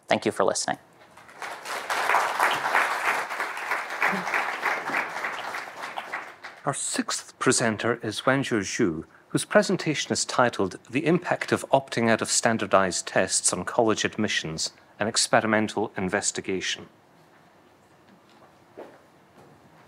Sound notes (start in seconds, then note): 1.1 audience applauding